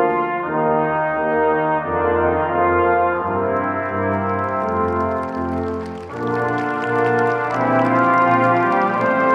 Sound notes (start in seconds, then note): 5.7 audience clapping